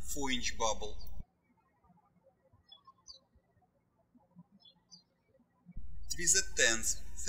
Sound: birds chirping

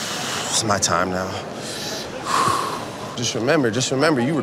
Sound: breathes

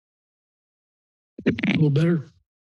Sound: mic thumps

